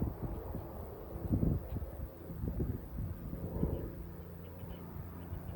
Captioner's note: distant P-51 Mustang engine noise